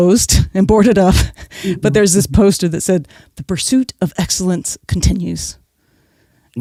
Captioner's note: guffaw